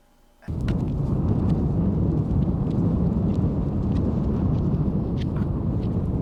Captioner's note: wind whooshing; feet tapping